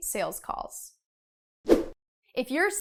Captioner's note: air whooshing